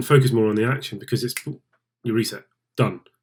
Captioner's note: snap